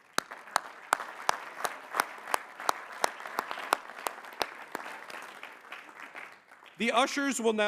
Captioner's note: applause